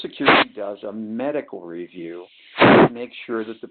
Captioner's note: sliding static